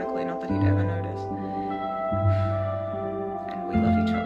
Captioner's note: happy gæ sigh